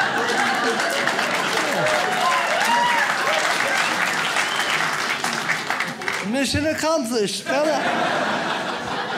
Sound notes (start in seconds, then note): 0.0 audience laughs; 0.0 audience cheers; 9.0 audience laughs